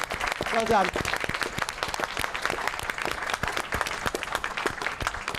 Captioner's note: applause